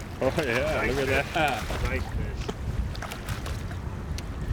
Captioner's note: fish splashing